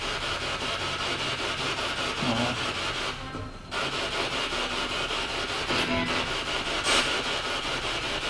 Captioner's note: radio noise from the spirit box